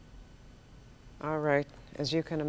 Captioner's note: interference on audio line